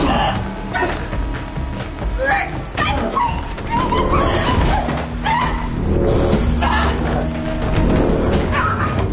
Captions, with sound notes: (Grunting) Get away! (Screaming) Stop it! Stop!